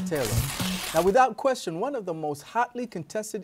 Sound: paper rips

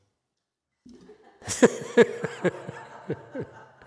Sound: laughs, audience laughs

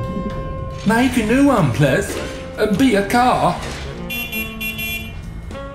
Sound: honks

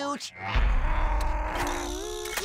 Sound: grumbling

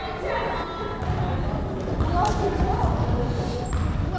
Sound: crowd chattering

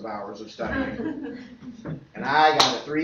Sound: laughter

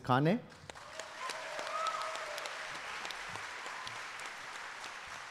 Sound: audience applauding

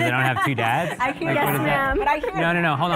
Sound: all laughing drowns out

